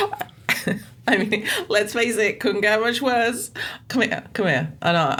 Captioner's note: laughs